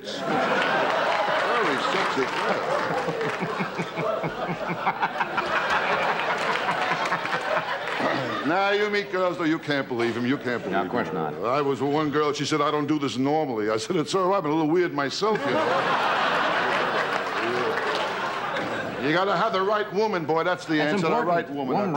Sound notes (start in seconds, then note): 0.3 audience laughter; 3.8 Johnny laughs; 15.3 audience laughter